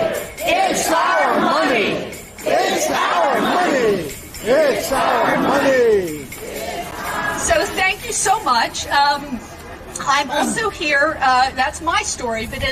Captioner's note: chanting